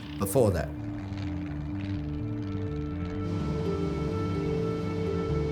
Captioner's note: airplane buzzing